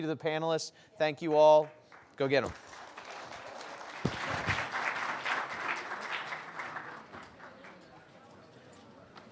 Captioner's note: audience applauds